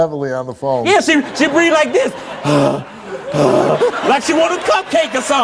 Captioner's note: pants